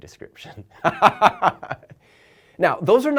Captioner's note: laughing